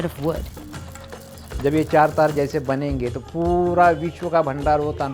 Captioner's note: speaking foreign language